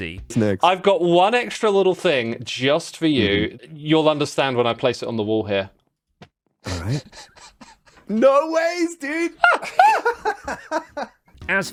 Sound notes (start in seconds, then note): 6.6 chuckles; 9.3 laughs